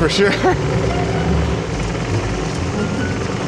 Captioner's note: laughs; laughs